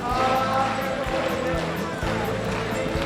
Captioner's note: Applauso